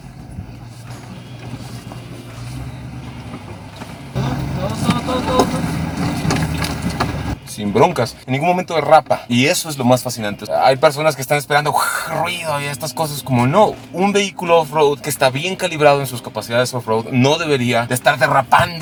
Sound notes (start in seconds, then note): 5.5 engine revving